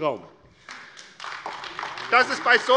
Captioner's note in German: Beifall AfD